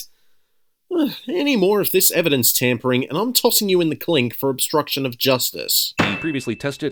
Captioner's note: sigh